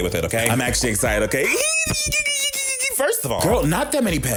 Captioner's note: yelping